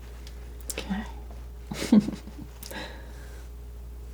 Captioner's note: chuckles